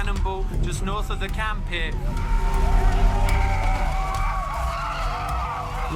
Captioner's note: protestors screaming